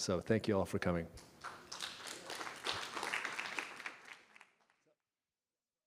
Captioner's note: applause